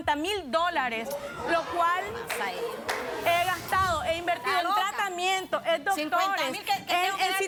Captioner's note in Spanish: risas